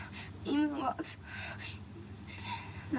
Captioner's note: speaking in foreign language